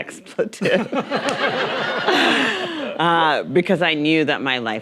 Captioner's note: audience laughing